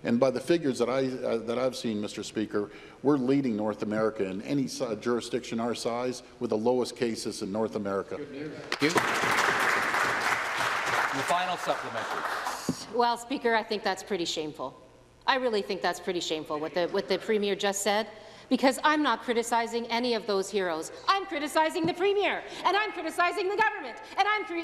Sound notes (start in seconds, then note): 12.1 applause